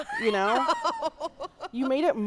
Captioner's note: laughing